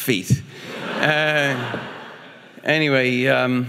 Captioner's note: audience laughing